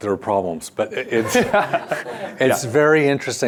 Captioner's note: laughs